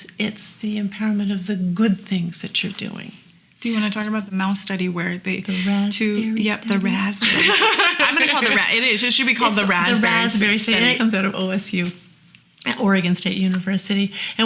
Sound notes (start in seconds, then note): 7.2 laughing